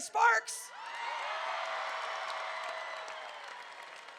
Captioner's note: crowd cheering